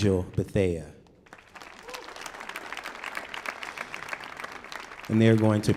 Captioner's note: audience applauding